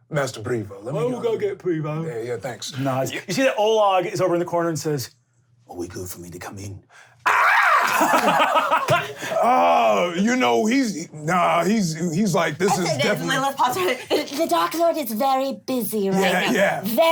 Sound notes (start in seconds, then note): 7.2 screaming; 7.2 laughing